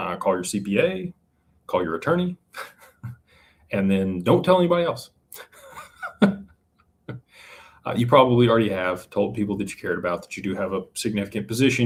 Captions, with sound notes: call your CPA. Call your attorney. And then don't tell anybody else. [laughter] [gasps] you probably already have told people that you cared about that you do have a significant position.